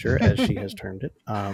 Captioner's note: laughs